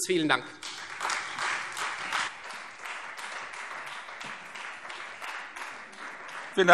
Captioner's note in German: Beifall Freie Demokraten